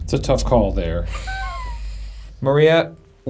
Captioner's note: chuckling